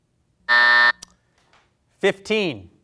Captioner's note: buzzer buzzing